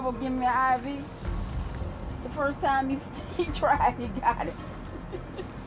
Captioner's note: laughs